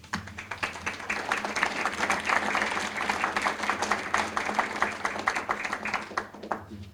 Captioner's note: applause